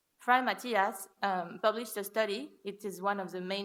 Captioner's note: foreign language